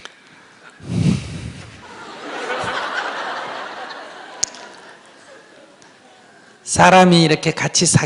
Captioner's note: audience Laughter